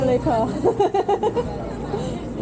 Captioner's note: laughing